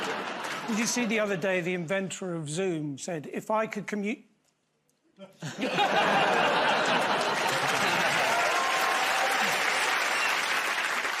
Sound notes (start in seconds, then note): 5.2 laughter; 7.6 cheers and applause